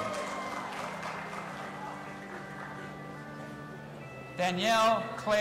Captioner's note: audience applauding and cheering